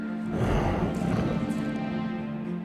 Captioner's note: deep snarling